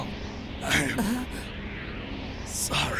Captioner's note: anime gasp-grunt